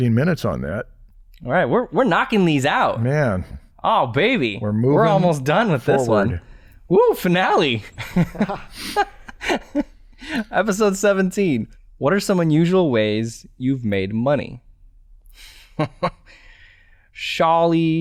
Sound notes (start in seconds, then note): 7.9 chuckles